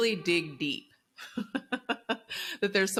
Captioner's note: laughs